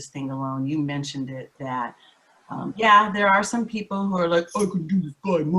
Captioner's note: in a husky voice